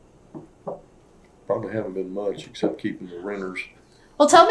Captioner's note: laughs